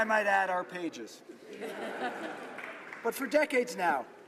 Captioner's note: applause; laughter